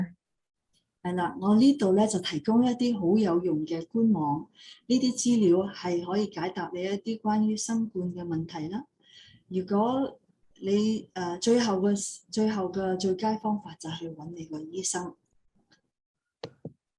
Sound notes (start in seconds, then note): 1.0 non-english speech